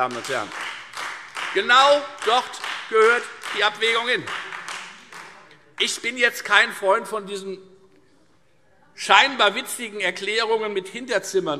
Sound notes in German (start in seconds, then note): 0.0 Beifall Freie Demokraten